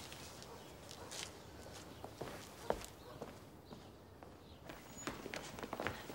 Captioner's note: birds chipping; dog barks distantly